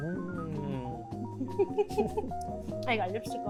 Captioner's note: laughing